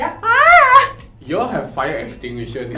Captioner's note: baby bird shrieking